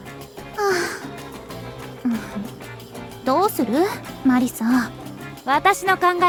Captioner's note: sigh